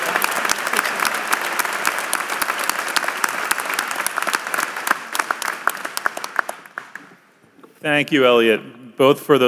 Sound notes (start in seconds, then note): 4.5 applause